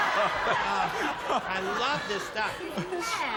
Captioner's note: laughter